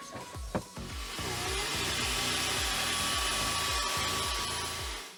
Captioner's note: machine whirring